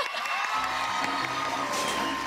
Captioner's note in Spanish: gritos